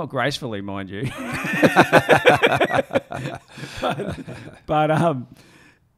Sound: laughing

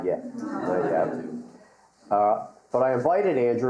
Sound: audience laughing

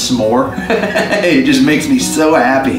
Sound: laughs

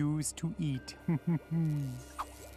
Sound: laughing

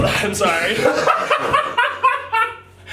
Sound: laughing

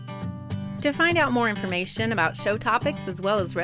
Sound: voiceover

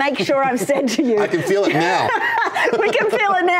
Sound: laughter

